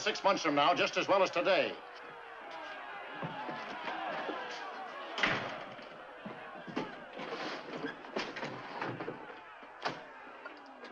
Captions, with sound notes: six months from now, just as well as today. [ TOWNSFOLK CLAMORING ]